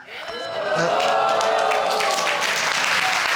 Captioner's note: crowd cheering